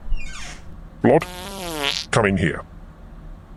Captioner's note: passing wind